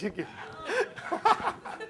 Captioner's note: laughter